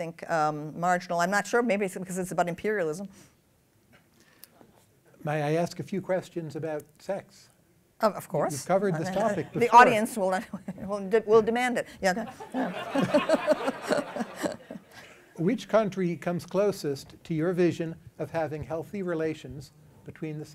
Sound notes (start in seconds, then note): 12.2 laughter